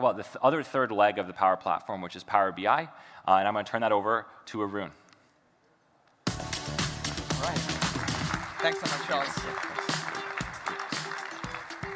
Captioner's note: applause